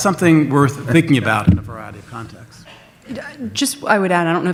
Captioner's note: overlapping chatter